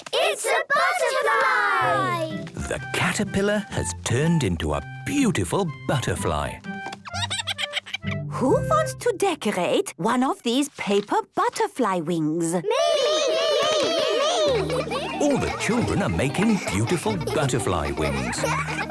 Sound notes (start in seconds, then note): 7.1 giggles; 12.7 all calling out